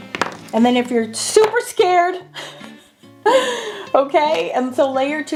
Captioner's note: laughing